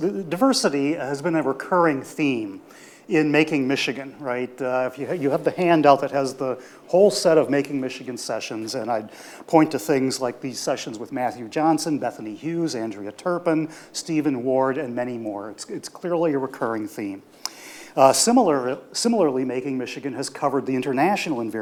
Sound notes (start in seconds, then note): none